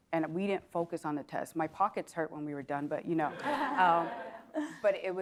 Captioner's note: laugh